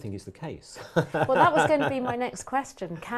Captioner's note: laugh